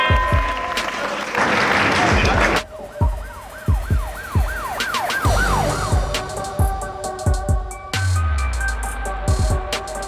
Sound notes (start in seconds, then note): 0.1 bell ringing; 3.6 sirens blaring; 6.3 intense music